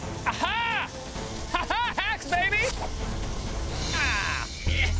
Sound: laughs

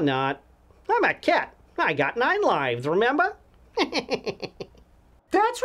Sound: snickering

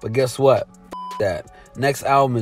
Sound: beep

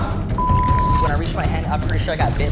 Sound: beep

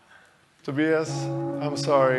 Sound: bell ringing

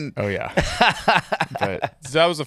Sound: laughing

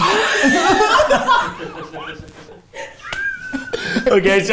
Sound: all laughing

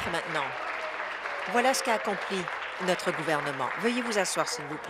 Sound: applause

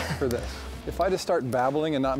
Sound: laughs

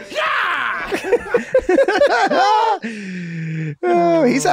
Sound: everyone laughing

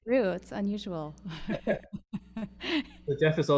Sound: laughter

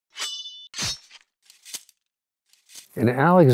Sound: sword slashing

